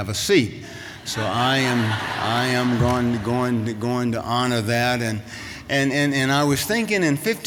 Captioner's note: laughter